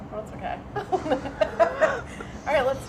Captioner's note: laughing